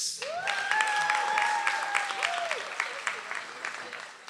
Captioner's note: audience applauds